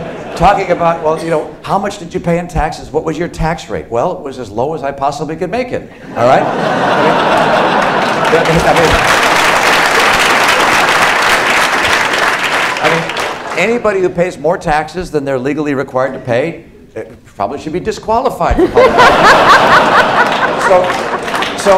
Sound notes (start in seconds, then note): 7.1 applause; 18.5 laughter